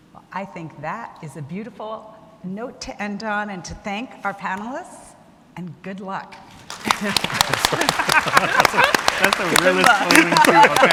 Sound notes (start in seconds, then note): 6.6 audience clapping; 6.8 panelists laughing